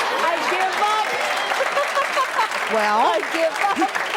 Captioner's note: audience applause